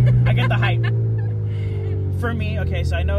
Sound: laughs

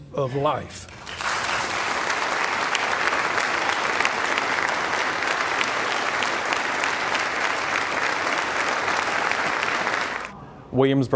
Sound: applause

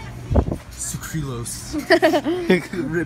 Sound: giggle

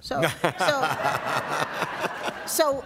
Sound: laughter

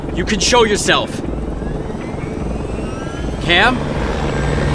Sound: sound of helicopter blades turning

